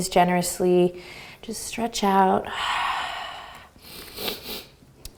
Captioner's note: exhales